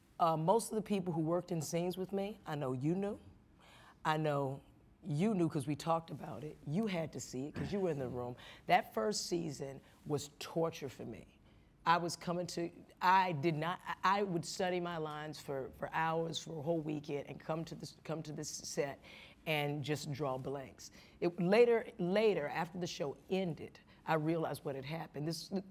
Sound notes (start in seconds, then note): 7.5 clears throat; 12.6 stuttering